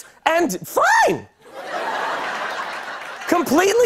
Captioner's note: laughter